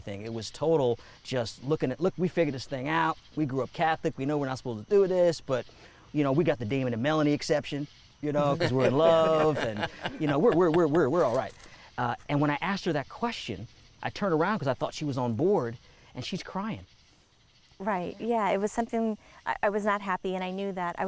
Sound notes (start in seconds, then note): 8.4 others laughing